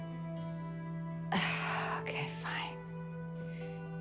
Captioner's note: sighing